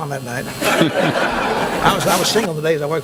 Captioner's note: laughing